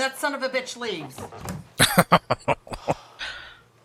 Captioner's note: laughing